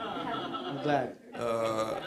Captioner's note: audience laughter